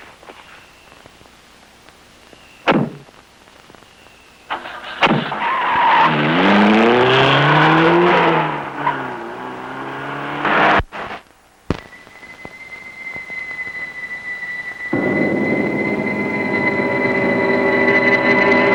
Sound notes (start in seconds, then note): 2.9 doors banging; 4.5 tires squealing; 6.0 engine rumbles; 11.8 eerie music